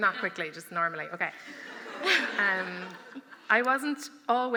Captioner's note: laughter